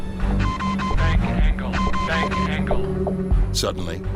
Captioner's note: alarm beeping; recorded Voice